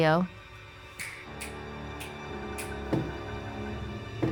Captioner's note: dramatic music; fingers snapping; foot tapping